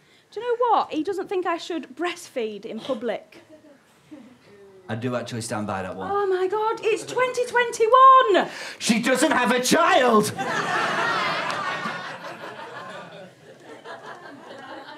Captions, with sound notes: Do you know what, he doesn't think I should breastfeed in public. I do actually stand by that one. Oh, my god, it's 2021. She doesn't have a child! (AUDIENCE LAUGHTER)